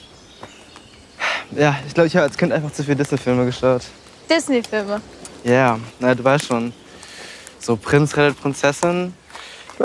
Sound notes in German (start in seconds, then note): 1.2 Seufzen